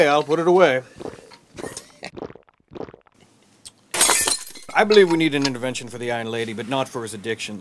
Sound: laughs

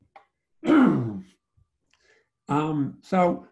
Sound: clears throat

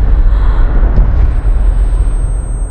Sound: gasps

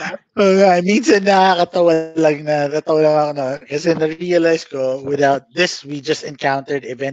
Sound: laughs

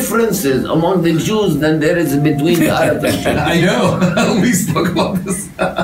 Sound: laughter

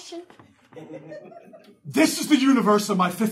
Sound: audience laughing

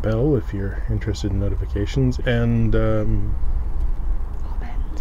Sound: whispers

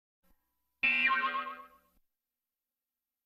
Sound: boing

